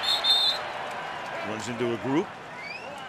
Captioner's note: whistle